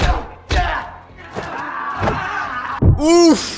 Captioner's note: gunshot